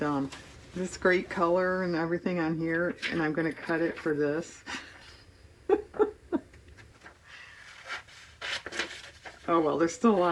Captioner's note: laughs